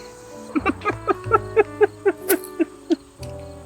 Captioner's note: Frank laughing